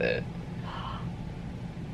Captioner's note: gasps